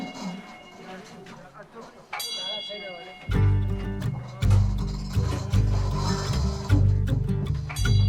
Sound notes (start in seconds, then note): 2.2 bell rings; 3.2 slow guitar music